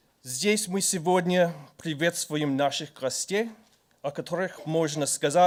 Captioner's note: speaking in foreign language